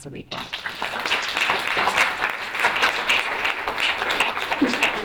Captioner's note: audience applauding